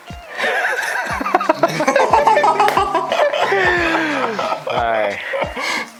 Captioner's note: laughter